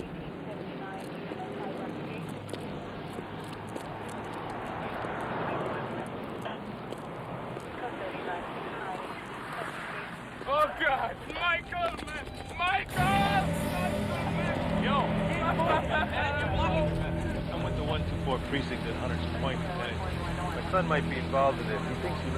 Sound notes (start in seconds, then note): 4.7 people chattering; 4.7 vehicle whirring; 15.9 Cederic crying